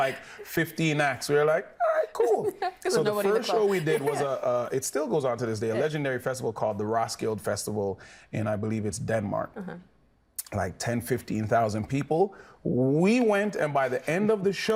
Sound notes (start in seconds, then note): 1.9 laughing